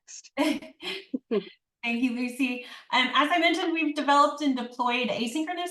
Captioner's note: laughs